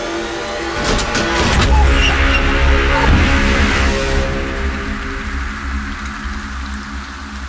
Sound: car Sound; car Door Sound

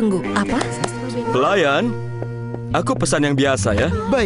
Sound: claps

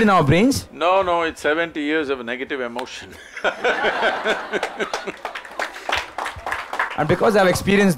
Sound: laughter/Applause

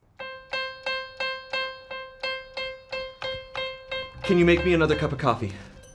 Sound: presses keyboard key repeatedly

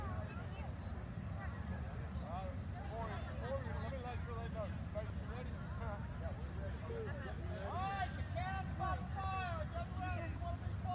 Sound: crowd noise, indistinct conversation

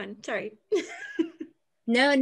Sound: laughs

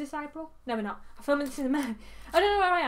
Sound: laughs

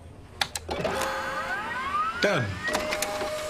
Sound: printer printing

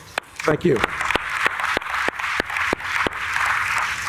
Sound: applause

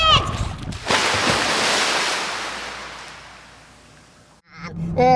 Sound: splashing sound

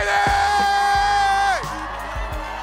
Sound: audience cheering

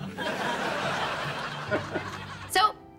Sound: chuckles

